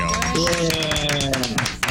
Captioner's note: applause